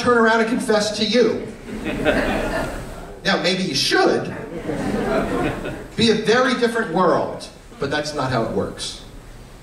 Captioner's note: laughter